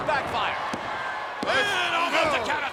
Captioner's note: hand tapping